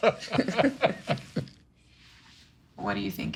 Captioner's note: laughter